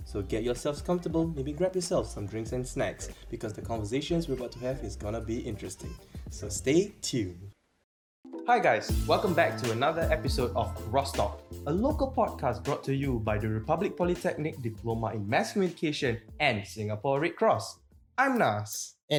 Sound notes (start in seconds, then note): none